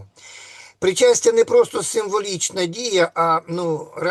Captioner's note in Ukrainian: сопіння